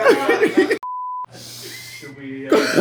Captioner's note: laughing